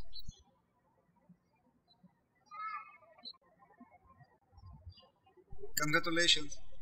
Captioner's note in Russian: птички щебечут